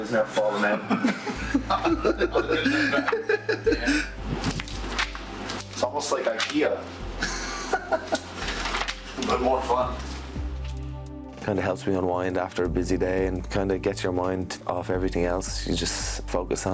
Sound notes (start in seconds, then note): 3.4 laughter